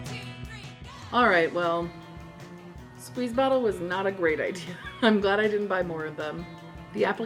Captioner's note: laughs